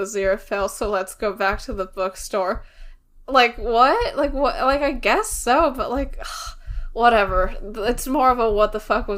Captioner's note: sighs